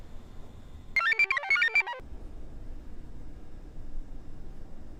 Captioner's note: computer chirps